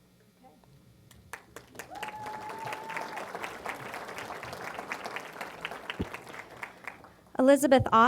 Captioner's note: applause